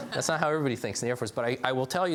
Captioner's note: laughs